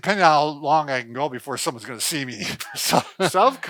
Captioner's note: laughs